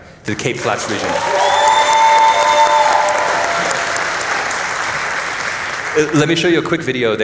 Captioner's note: applause